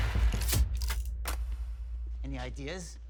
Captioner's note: tense music; guns clicking